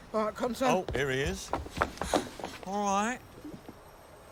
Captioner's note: pants